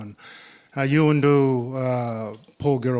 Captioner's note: speaking in Ngunnawal